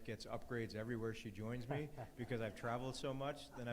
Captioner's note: audience laughs